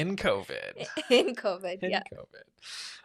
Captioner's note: laughs